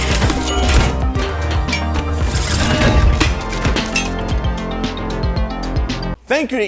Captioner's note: mechanical whirring and clinking; upbeat theme music